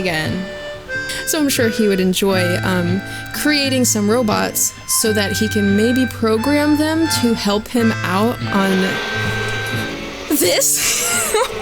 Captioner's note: overwhelming swarm of bees buzzing